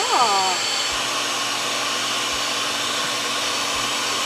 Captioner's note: whirring continues